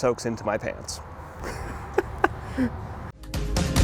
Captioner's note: laughs